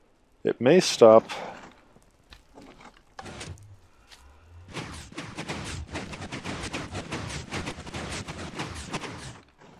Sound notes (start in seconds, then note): 1.7 pressure plate clicks, some piston sounds; 4.7 increasing piston sounds; 8.7 pistons stop